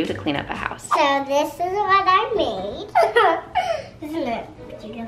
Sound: chuckles

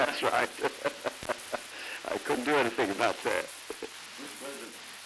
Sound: laughter

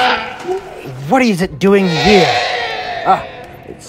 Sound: triceratop Sounds; triceratop Sounds

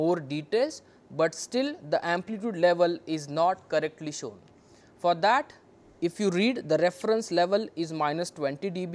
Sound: phase noise

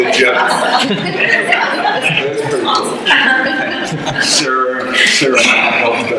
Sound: audience laughter

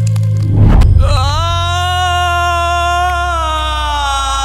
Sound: screaming in pain

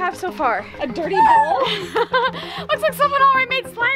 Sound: laughing

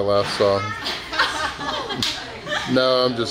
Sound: laughing

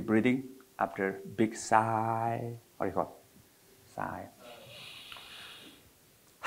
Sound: sighs

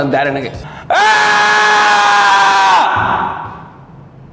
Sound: shouting

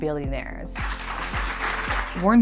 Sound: applause

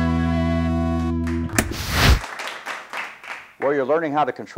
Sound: audience applause

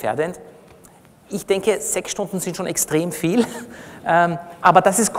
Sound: laughs

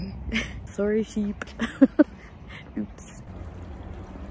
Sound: embarrassed laugh

